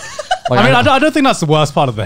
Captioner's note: laughs